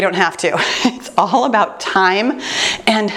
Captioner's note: chuckles